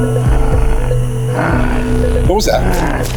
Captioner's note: animal snarling